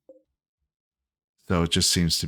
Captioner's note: silence